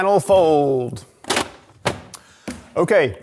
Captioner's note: container clattering